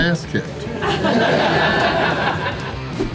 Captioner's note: crowd laughter